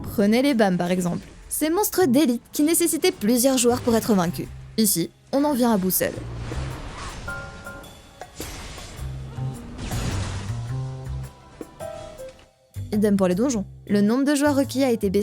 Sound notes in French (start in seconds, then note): 6.4 bruits combat